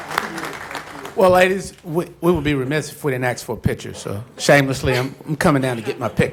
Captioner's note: applause